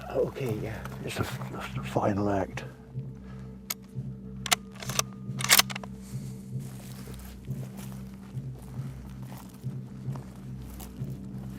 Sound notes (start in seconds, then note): 4.4 rifle cocking; 5.4 grass crunching